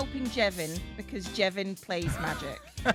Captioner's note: chuckles